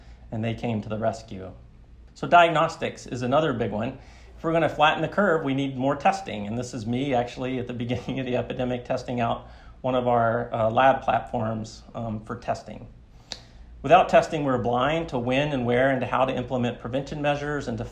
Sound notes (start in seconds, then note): 7.8 chuckles